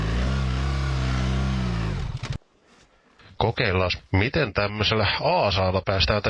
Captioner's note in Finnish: Moottorin ääntä